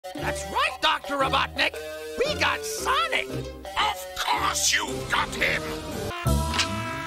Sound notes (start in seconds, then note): 3.7 Robotnik yelling